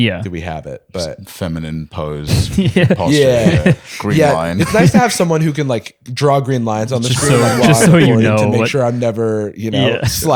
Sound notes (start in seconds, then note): 2.4 laughing